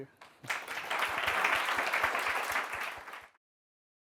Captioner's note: applause